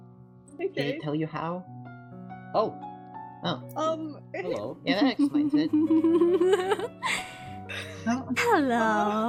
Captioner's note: ROSE laughs